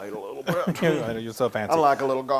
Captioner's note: laugh